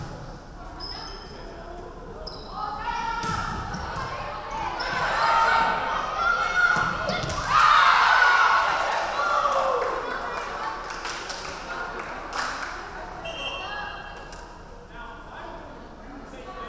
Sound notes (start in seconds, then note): 7.9 crowd cheering; 7.9 referee whistling